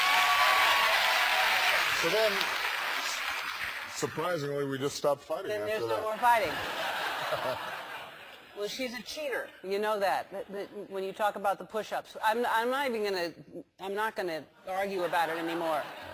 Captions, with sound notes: >> [APPLAUSE] So then surprisingly we just stopped fighting. > And there's no more fighting. > [LAUGH] >> Well, she's a cheater, you know that, when you talk about the push ups. I'm not even gonna, I'm not gonna argue about it anymore.